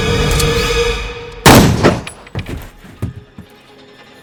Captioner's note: gun shots